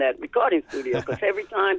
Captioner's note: laughter